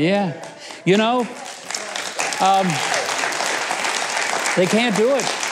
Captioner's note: audience applauds